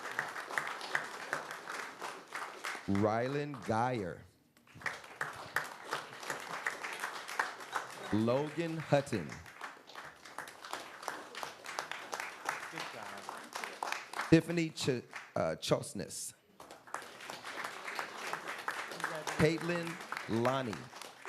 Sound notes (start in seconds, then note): 0.9 applause